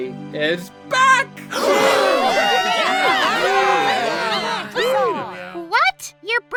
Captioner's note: crowd gasps then cheers